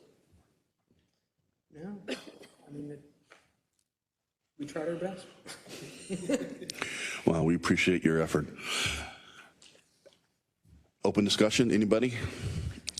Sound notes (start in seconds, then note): 5.5 laugh